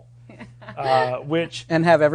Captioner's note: laughing